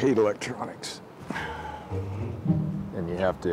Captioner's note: sighs